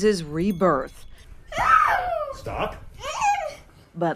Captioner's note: crying